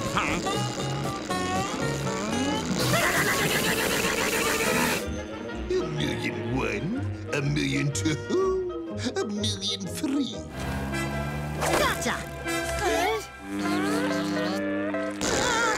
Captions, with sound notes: [zapping] A million one, a million two, a million three. Gotcha!